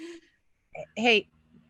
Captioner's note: chuckles